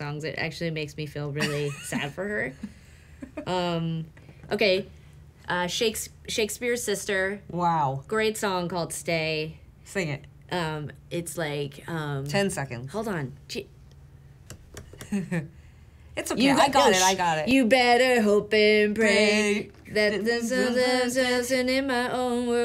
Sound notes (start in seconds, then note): 2.6 laughing; 15.0 chuckling